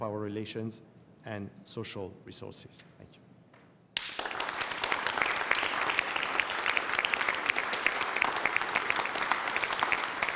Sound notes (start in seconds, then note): 3.9 applause